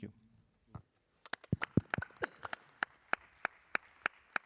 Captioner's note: applause